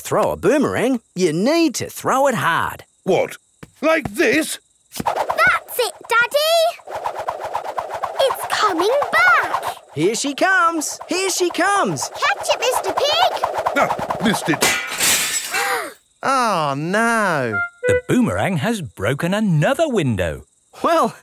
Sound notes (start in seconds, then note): 14.6 shatters